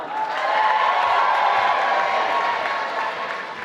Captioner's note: applause